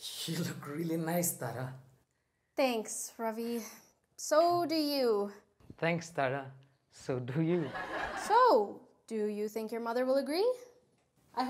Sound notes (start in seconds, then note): 7.5 audience laughs